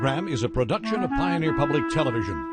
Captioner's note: voiceover